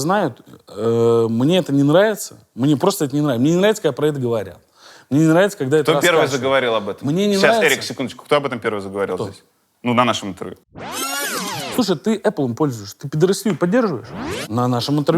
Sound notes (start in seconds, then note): 10.7 rewind sound effect